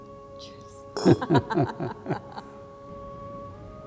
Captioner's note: both laugh; glasses clink; ethereal music